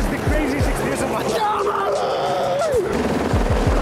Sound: yells

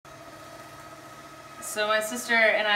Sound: motor whirring

